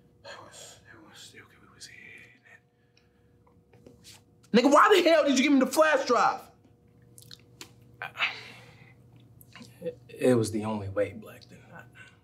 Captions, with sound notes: They was, they wa- okay we was here and then... Nigga why the hell did you give them the flash drive?! [sighs] It was the only Blacktain I-